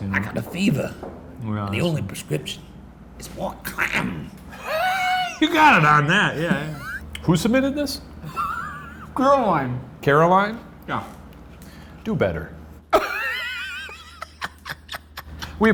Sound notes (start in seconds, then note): 6.3 laughing; 8.2 laughing; 12.9 laughing